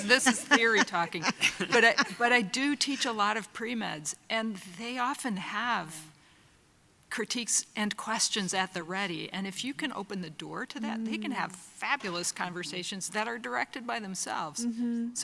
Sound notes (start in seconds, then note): 2.2 laughing